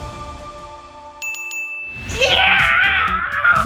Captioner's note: ding ding ding; screams in celebration